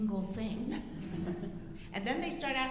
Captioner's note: audience laughing